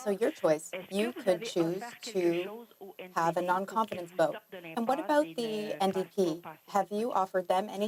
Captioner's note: speaking French